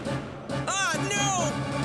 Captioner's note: jet whirs